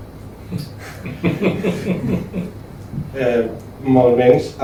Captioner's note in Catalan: rialles